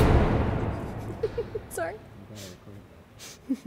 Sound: laughs

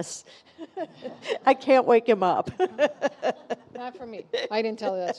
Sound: laughs

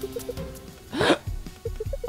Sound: surprised Gasp

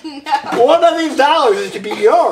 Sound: laughs

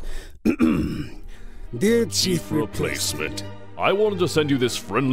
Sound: clears throat

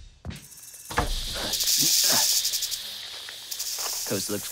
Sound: snakes hissing and rattling

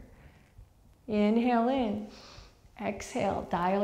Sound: deep breath

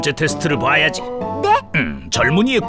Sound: Wilk gasps

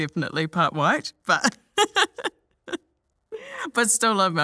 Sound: laughs

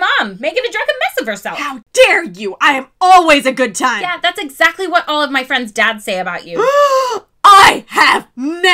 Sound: gasp

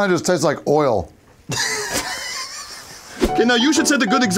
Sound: crew laughing

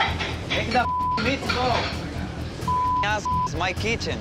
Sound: beep

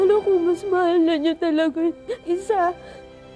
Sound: Martha sighs

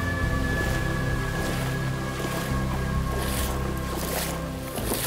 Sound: splashing footsteps

